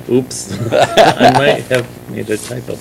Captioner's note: laughter